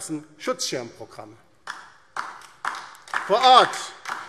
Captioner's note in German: Beifall DIE LINKE